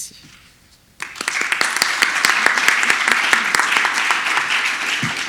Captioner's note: audience applauds